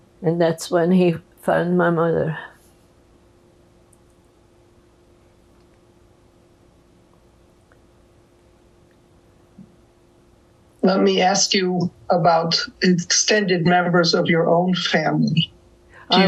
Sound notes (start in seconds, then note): 5.8 pauses 8 seconds